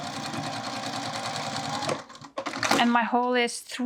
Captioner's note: machine whirring